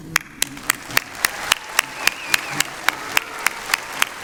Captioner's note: applause